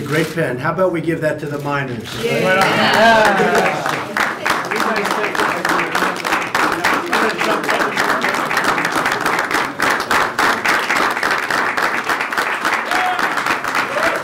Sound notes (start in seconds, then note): 2.6 applause